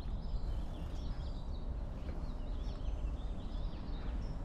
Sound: birds chirping

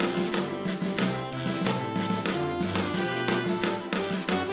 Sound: none

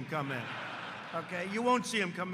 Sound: laughter

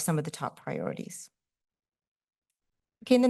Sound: pause

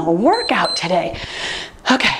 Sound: timer beeps

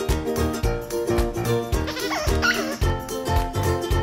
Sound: toy squeaking

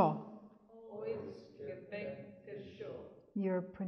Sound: speaks in Yiddish; audience speaks in Yiddish

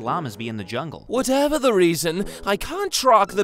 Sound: none

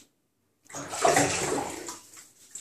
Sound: water splashing

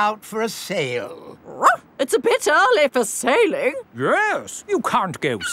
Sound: barks

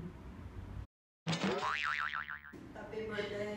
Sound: boing

